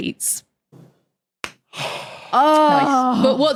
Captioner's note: clap, heavy sigh